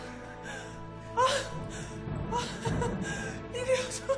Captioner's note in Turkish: Ağlama sesi